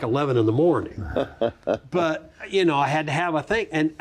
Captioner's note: continues chuckling